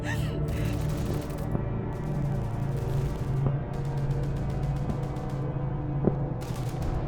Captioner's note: ominous music; guns firing in distance